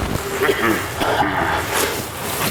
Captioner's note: sound of coughing